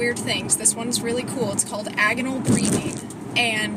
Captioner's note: phone bumps around in cradle